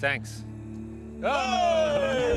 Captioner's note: both exclaiming; thunder rumbling